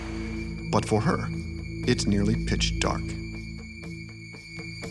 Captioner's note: voiceover